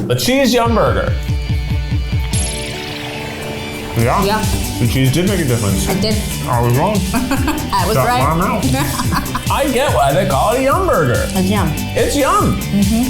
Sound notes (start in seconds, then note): 2.5 upbeat music; 7.3 laughing; 8.9 laughs